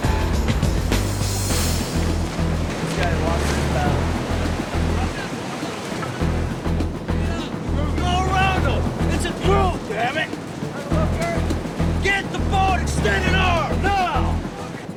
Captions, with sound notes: [upbeat music] [Instructor yelling at students] Get the boat and stand at arms! Now!